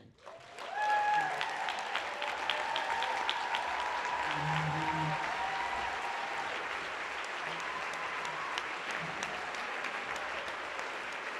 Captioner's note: applause